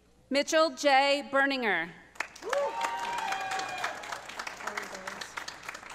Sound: audience applauding

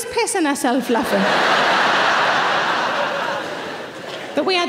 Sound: audience laughing

